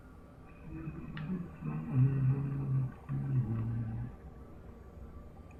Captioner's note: humming